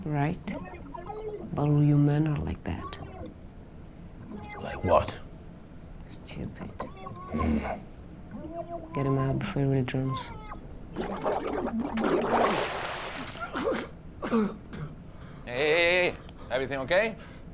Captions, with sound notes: - Right. But only you men are like that. - Like what? - Stupid. Get him out before he drowns. (water splashing) (Jimmy coughing) - Hey, hey, hey, everything okay?